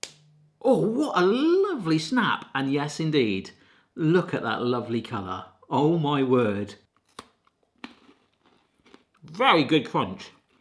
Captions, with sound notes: (Kit Kat snapping) Oh what a lovely snap. And yes indeed, look at that lovely colour. Oh my word. (Kit Kat crunching) Very good crunch.